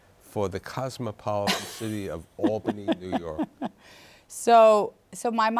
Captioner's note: laughs